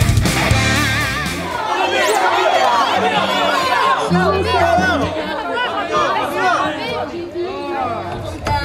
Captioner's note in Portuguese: torcedores gritando